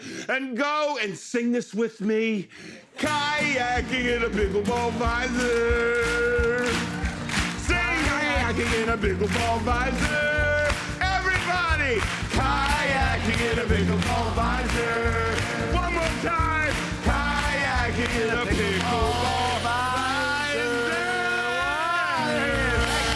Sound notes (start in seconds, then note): 6.3 rhythmic clapping